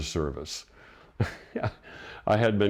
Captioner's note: chuckles